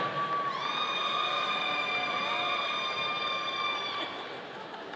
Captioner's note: audience cheering